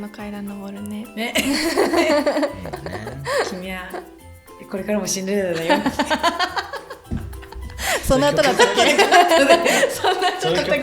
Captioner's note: laughs